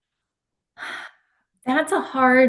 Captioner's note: sighs